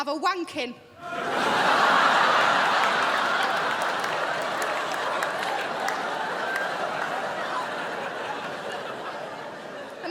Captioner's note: crowd laughs